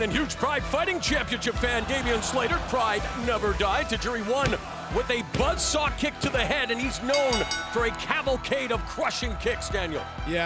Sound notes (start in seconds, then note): 7.1 bell rings